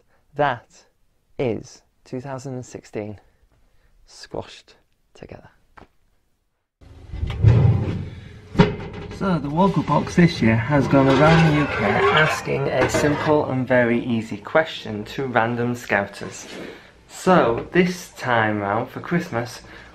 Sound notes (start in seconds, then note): 7.1 oven door open